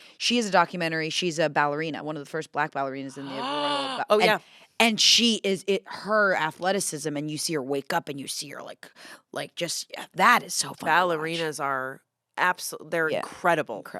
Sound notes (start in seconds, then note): 3.1 gasps